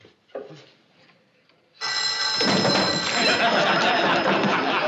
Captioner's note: phone ringing